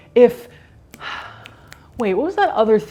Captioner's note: fingers snapping; sighs